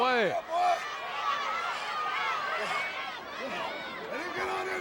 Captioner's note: shouting